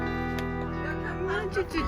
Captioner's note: someone talking in background